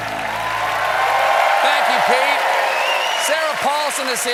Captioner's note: cheers and applause